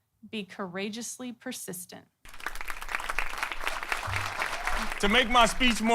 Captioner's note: applause